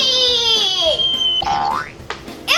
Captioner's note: boing